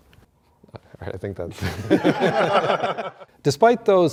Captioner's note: all laugh